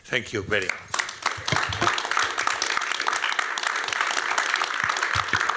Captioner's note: applause